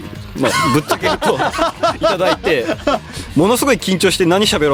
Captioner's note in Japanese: 笑い